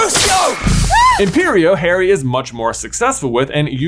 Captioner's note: spell crackling and booming; Bellatrix screaming